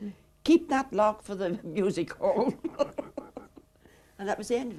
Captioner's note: chuckles